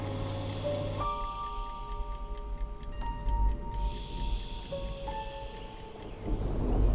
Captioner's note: faint ticking; thunder rumbling